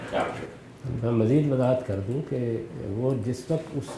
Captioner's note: speaking urdu